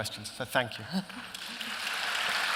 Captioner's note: applause